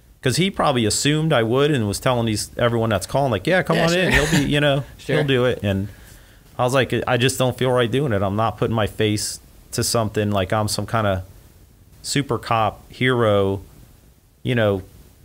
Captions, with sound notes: 'Cause he probably assumed I would, and was telling these, everyone that's calling, like, "Yeah, come on in. - Yeah, sure. (laughs) - "He'll do it." - Sure. - And I was like, "I just don't feel right doing it. "I'm not putting my face to something, "like I'm some kinda super cop hero,"